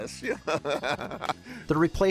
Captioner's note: laughs